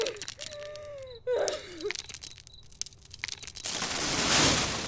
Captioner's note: fire cracking, crying sounds; fire crackling; burnt out house collapses